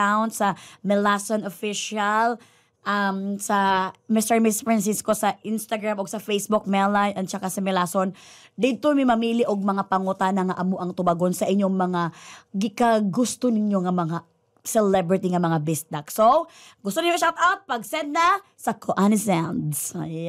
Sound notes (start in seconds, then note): none